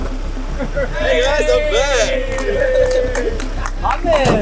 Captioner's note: team cheering